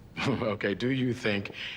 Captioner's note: chuckling